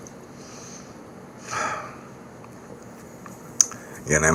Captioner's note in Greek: αναστενάζει